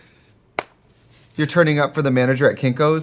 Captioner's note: Katya claps